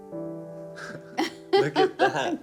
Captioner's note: laughing